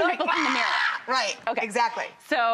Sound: screaming

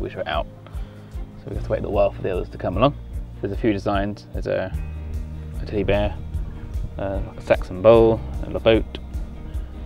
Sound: breaths heavy

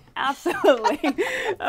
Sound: laughing

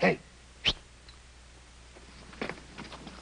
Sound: whistles

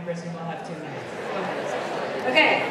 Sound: audience chattering

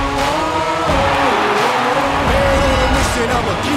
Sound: crowd cheering; upbeat music

